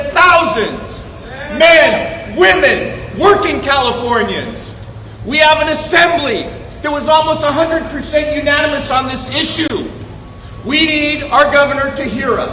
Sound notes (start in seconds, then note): 1.9 cheers and applause